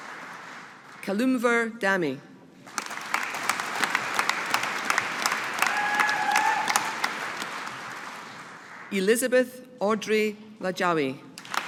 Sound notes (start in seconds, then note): 2.7 audience applauding; 11.4 audience applauding